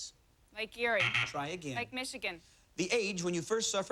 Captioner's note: buzzer